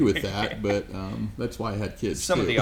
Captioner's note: laughs